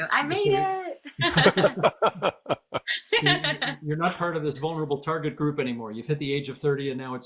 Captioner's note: laughter